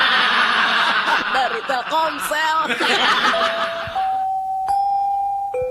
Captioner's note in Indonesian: tertawa